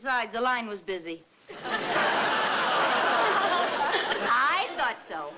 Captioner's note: audience laughing